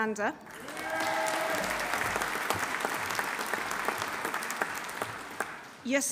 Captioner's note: audience applauding; audience cheering